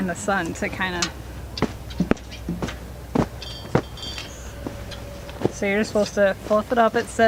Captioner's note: hitting noises